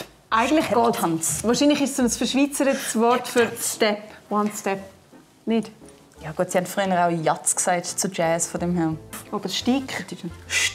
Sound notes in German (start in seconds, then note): 7.1 deutsch ausgesprochen